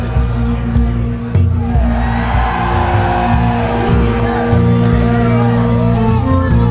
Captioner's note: cheering